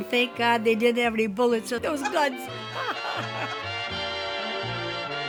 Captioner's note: laughs